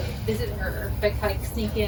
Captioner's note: chitter chatter